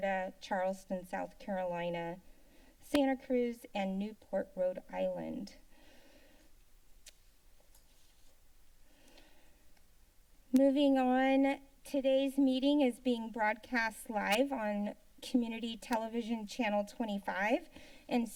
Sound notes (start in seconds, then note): 6.8 tongue clicking; 7.6 silence